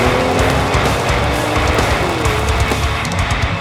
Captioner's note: upbeat music playing; engine revving